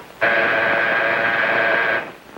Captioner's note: buzzing